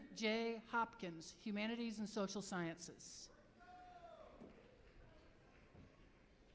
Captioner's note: applause